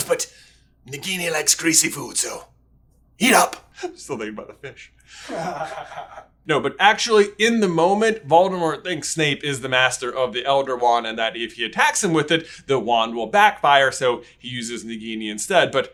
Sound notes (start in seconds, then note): 5.2 laughs